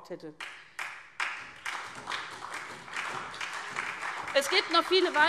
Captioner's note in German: Beifall SPD